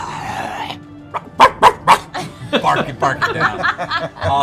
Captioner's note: snarls; barks